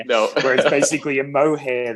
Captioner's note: laughs